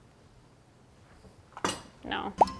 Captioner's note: knife clinking